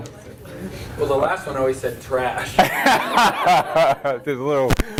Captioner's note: laughter